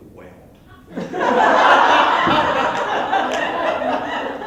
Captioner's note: hardy Laughter, mostly